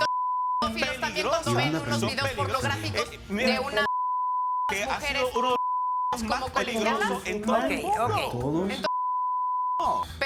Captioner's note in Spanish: Hablan al unísono